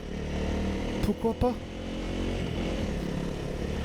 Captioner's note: French